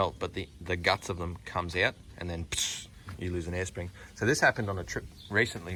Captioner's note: insert weird air noise made